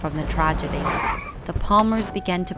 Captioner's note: tyres screech